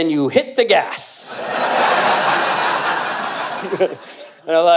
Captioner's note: audience Laughter